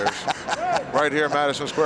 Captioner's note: Pat laughing